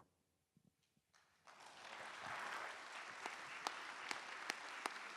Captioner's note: applause